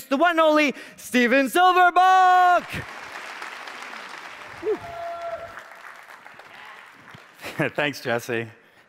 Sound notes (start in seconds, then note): 1.6 man in audience yells; 2.6 audience applauds; 7.4 laughs